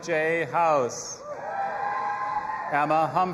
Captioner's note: audience applauding and cheering